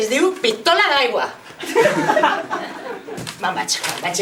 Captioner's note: laughs